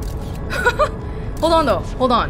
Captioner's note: laughs